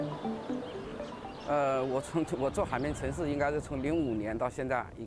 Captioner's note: speaking Chinese